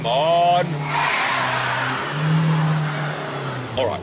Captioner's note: tires screech